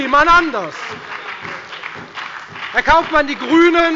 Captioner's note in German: Beifall bei der FDP und der SPD